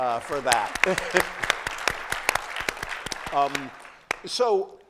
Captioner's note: applause